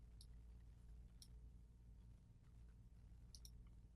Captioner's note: clicking